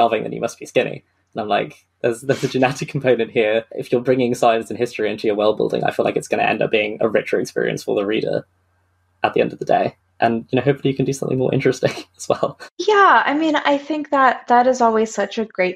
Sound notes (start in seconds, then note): 10.2 laughing